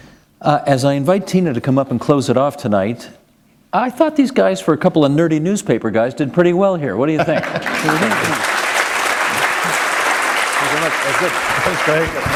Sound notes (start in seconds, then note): 7.1 laughter; 9.0 applause